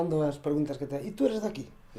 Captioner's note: in Spanish